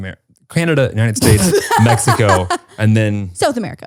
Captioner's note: laughing